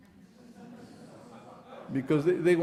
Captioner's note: audience laughing